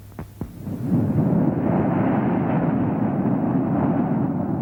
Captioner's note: waves crashing